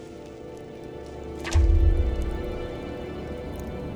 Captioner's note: thud